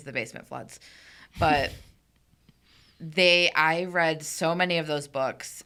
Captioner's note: chuckling